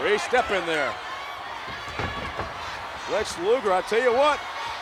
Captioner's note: applause